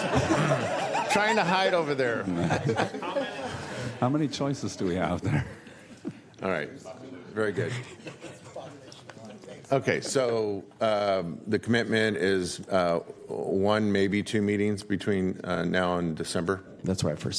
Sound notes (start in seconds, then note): 5.0 laughter; 7.6 laughter